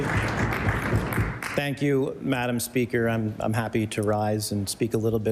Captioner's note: applause